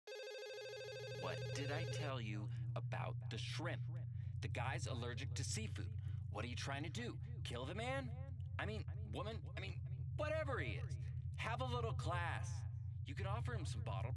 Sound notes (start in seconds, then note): 0.0 phone ringing